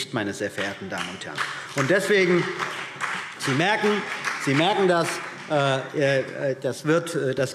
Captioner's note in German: Beifall BÜNDNIS 90/DIE GRÜNEN